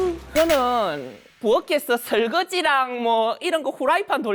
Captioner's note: in a dialect